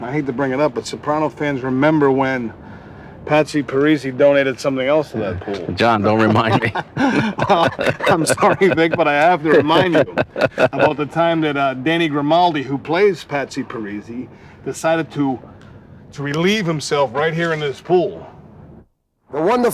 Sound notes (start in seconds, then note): 7.5 laughs